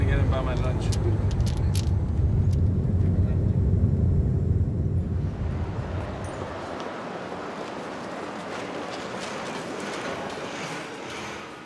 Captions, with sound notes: >> You guys can pitch in and buy me lunch. [traffic noises]